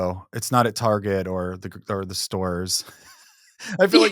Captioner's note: chuckles